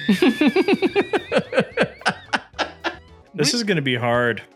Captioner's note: both laughing